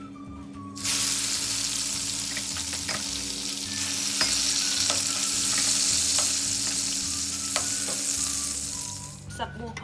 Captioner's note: boiling sound